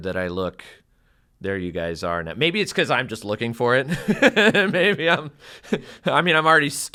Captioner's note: laugh